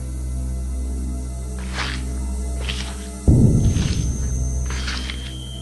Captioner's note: footsteps on leaves; footsteps